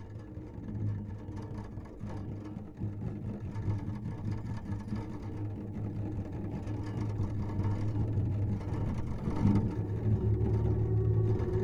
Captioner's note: eerie rattling, wind blows